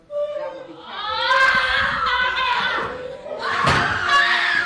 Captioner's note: women screaming